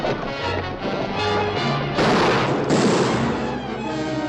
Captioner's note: dramatic music; firing